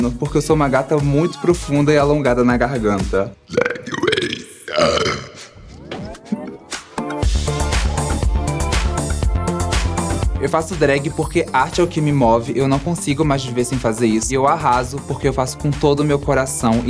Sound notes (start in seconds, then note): 3.4 burp; 3.4 burping; 5.6 laughter; 7.2 electronic music